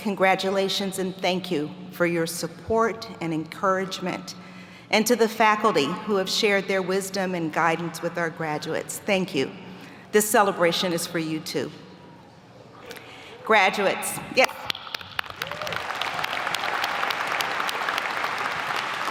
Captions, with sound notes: congratulations and thank you for your support and encouragement, and to the faculty who have shared their wisdom and guidance with our graduates, thank you. This celebration is for you too. Graduates, yes. (applauding) (audience applauding)